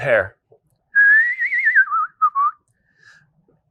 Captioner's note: whistling